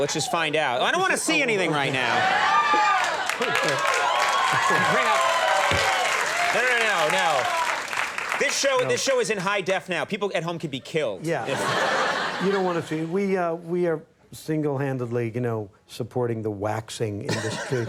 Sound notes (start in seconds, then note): 2.3 audience cheering; 11.3 audience laughing